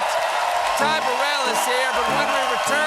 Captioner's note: cheers and applause